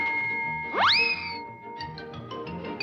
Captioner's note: mallet bangs; air squeals; bright upbeat music